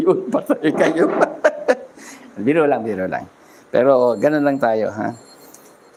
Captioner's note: laughter